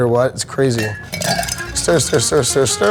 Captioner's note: ice clanks